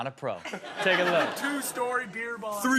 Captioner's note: audience laughs